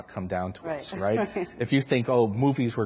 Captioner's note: laughs